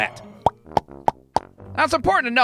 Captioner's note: pock-pock-pock!